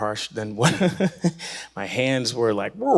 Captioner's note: laughing